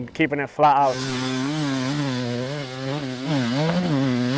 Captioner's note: motorcycle revving